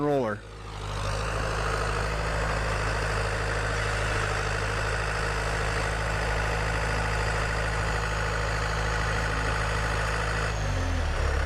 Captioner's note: tractor sound